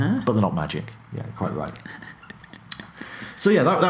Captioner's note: chuckles